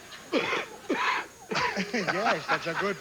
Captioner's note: coughing